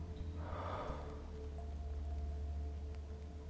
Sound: sighs

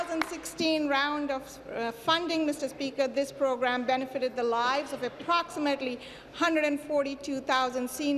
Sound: applause

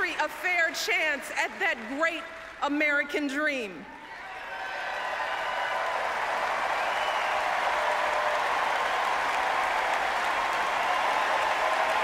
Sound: applause, chanting

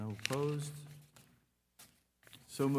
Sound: paper rustling

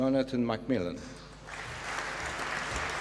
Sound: applause

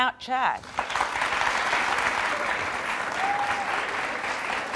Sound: audience applauding

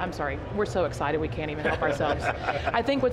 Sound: men laughing

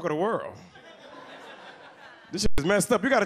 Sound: audience laughs

